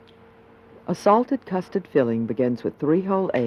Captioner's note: voiceover